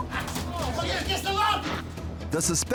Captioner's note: man shouting